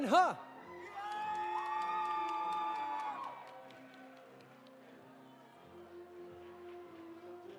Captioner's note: audience applauding; audience cheering